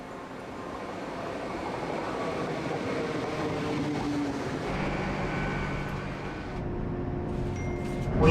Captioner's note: train Engine